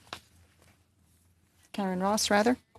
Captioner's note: speaking French